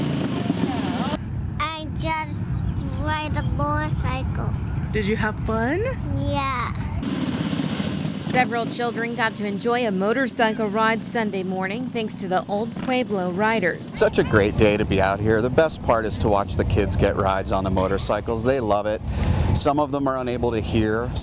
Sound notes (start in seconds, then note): 4.1 nat sound of kid riding motorcycle